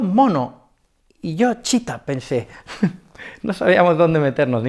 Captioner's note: laughs